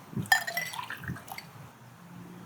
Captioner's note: juice pouring in glass